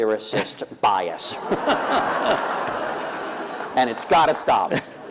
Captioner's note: laughter